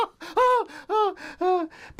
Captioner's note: laughs